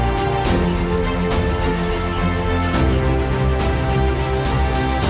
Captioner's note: flowing water